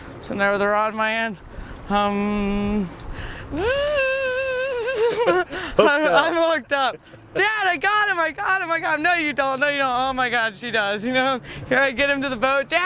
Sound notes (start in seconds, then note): 3.5 humming; 3.9 imitates fishing reel zipping; 5.6 laughing